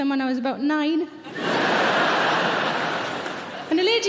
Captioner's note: audience laughing